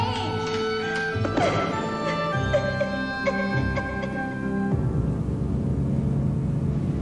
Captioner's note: sobbing